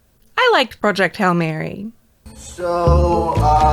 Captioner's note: cheerily